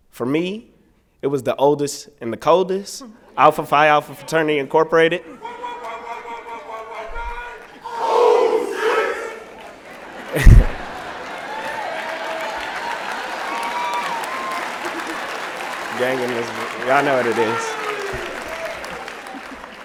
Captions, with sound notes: For me, it was the oldest and the coldest, Alpha Phi Alpha Fraternity Incorporated. [ Chanting ] [ Applause and Cheering ]